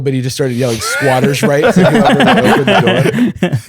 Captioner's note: laughter